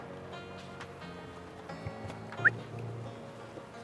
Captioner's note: whistle